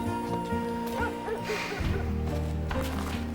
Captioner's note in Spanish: Jay suspira